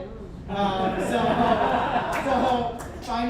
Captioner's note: audience chuckles